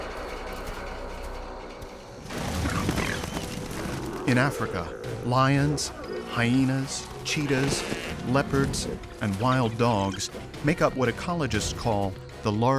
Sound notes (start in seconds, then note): 2.4 snorting and growling